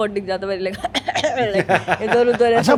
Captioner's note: coughs